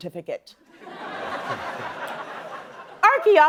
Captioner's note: laughter